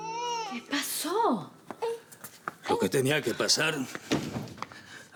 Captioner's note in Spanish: Llanto de la bebé